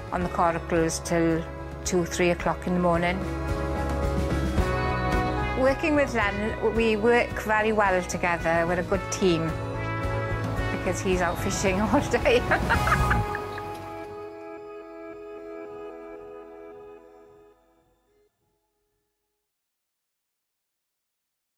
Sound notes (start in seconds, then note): 12.1 laughs